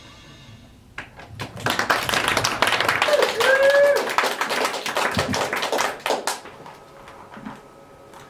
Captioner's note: applause